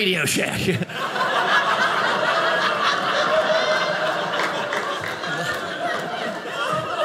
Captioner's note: audience laughing